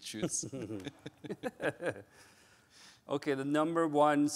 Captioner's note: laughing